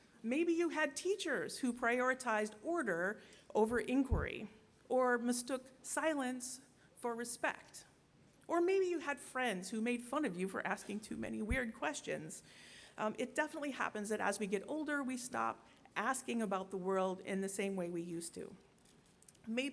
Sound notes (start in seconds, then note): none